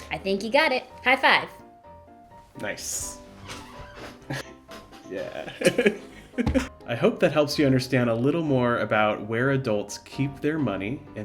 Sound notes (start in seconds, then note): 5.3 laughing